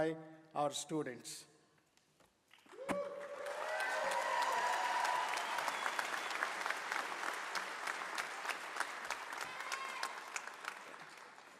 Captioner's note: cheering and applause